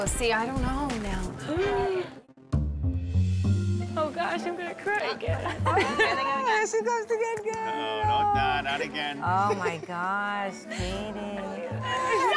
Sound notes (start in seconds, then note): 1.2 gasping